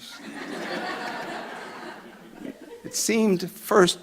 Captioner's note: audience laughing